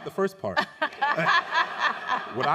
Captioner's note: laughing